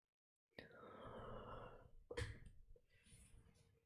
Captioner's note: breathes in